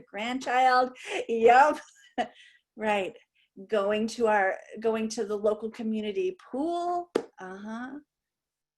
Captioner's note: laughter